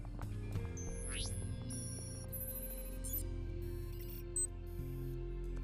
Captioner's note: phone beeping and whirring